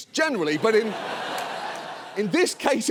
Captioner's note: audience laughs